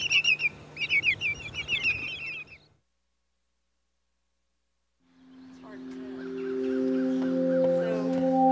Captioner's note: birds cawing